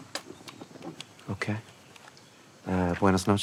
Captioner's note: speaks in foreign language